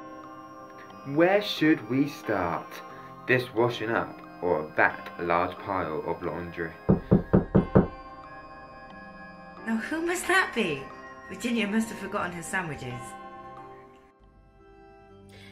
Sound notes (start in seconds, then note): 6.9 knocking